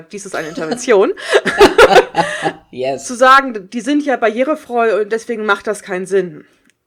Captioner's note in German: beide lachen